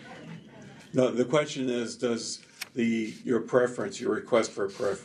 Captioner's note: laughter